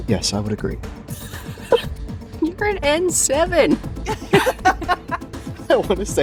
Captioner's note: laughs; chuckles